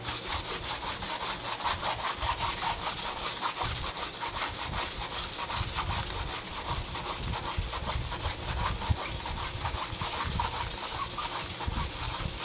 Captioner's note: sound of sanding